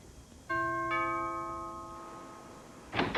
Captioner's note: doorbell rings